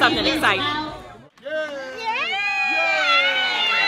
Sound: cheering

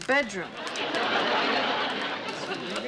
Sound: laughter

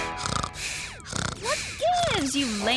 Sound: snoring

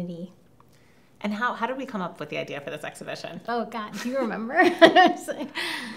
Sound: laughs

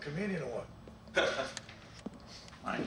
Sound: chuckles

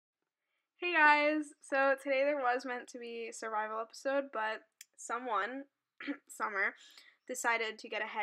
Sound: ahem

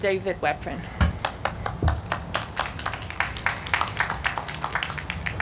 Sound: audience clapping

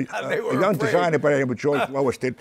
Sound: laughs

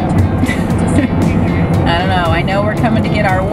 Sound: mom laughing

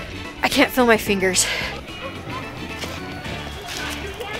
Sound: sighs

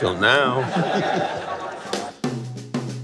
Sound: laughing

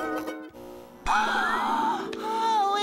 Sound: gasps

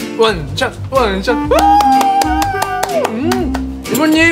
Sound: applaude

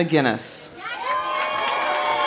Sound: audience cheering; audience applauding

